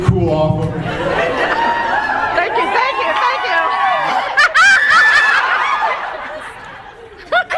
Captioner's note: laughs, cheers